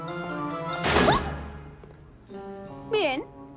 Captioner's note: slam